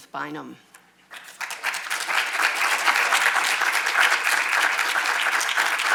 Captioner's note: audience applauding